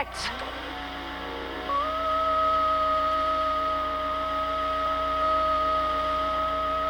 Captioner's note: platform whirs; Mrs. Hepp vocalizes